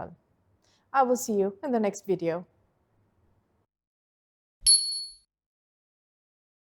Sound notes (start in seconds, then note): 4.6 bell dings